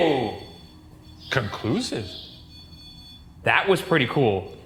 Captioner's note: device beeping